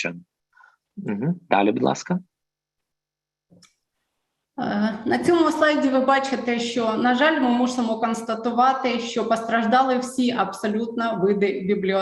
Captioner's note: foreign Language